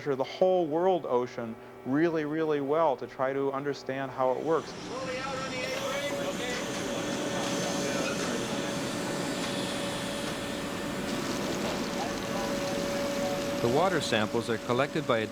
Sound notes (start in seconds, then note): 7.6 machine whirring